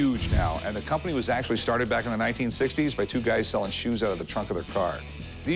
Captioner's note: none